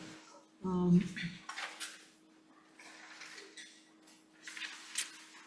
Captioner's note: papers rustling